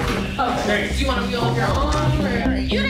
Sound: chattering

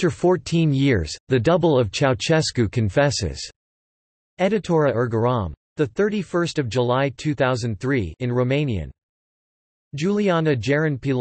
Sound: in Romanian

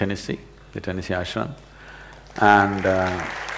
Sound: applause

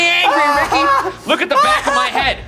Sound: gasping

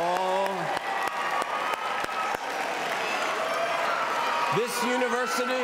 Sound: cheers and applause

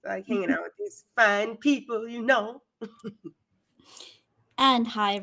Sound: chuckles; chuckles

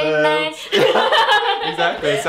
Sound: laughing

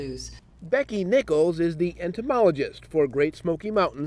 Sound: voiceover

